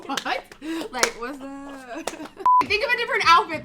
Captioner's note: both laugh; beep